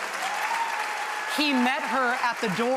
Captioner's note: applause